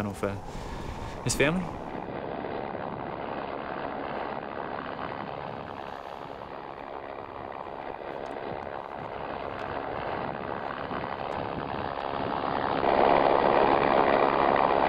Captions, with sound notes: for Stefan or for...his family. [helicopter noises]